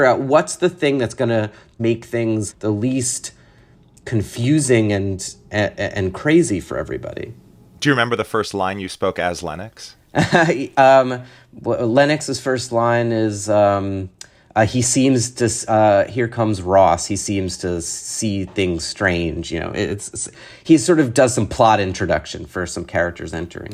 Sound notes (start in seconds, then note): 10.1 laughter